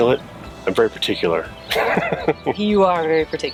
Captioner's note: laughs